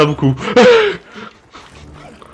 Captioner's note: laugh